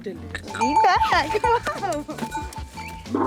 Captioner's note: bells jingling